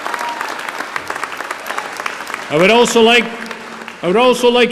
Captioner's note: applause